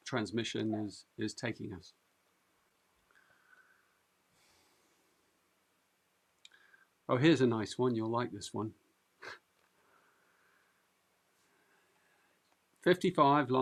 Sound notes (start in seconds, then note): 9.2 chuckles